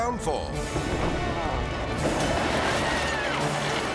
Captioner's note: dramatic music; building crumbling; people screaming; dramatic music